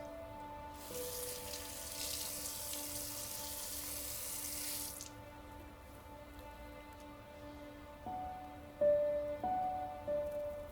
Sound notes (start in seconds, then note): 0.7 faucet running; 7.6 sentimental music